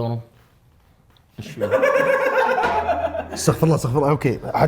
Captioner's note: laughter